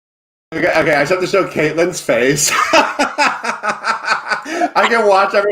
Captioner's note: laughs